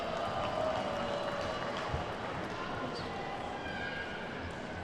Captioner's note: attendees clapping